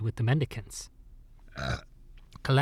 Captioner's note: belch